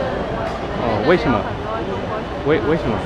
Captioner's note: mandarin